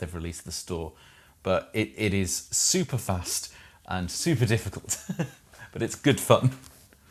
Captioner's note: laughs